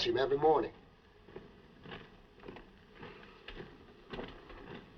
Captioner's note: footsteps Passing